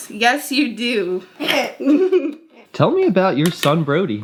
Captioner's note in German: lacht